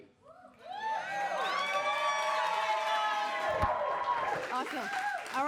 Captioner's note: audience cheering and clapping